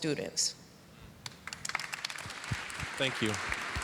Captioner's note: applause